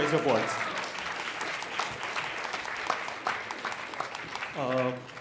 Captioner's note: applause